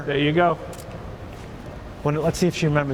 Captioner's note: camera clicks